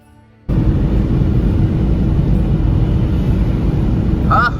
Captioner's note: car Engine Sound